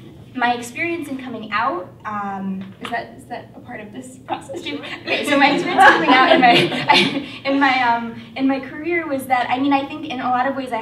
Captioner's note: laughter